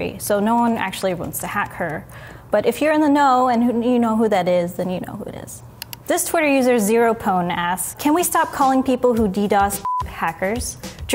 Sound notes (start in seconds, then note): 5.8 mouse clicking